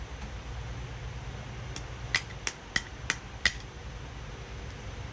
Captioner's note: tapping